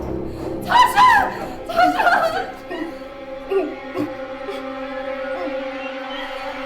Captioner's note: ominous music; Tasha grunting